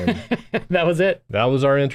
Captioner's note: chuckles